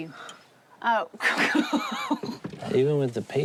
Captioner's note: laughs